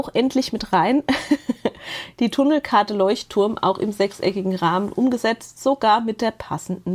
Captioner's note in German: gelächter